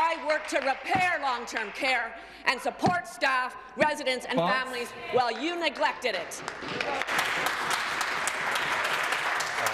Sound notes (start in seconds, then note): 0.8 some Applause